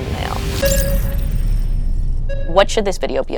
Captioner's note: tense music; device beeping